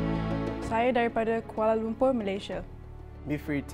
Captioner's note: speaking foreign language